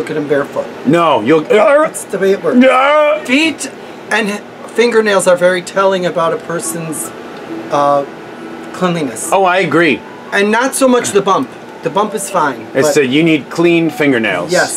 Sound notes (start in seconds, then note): 2.6 barfing sound; 2.6 making barfing sounds